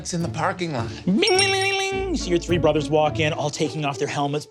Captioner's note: mimics bell ringing